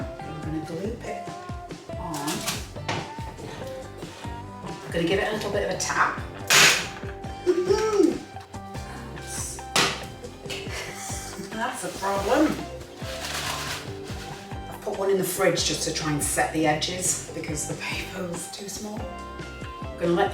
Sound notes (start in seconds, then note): 6.5 bangs; 8.5 laughs